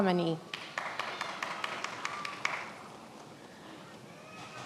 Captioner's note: many applauding